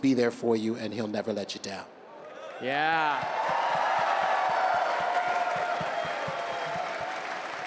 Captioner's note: cheers